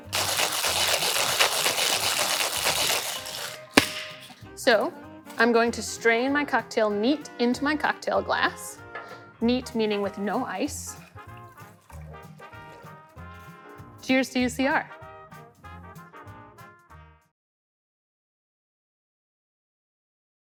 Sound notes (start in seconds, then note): 0.0 ice rattling; 3.5 metal smacking; 10.9 liquid pouring; 15.1 soft upbeat jazzy music